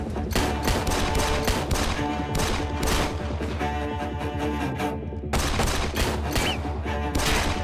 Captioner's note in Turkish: Çatışma sesleri